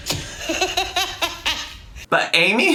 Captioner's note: laughs